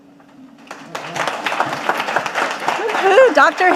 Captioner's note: audience applauding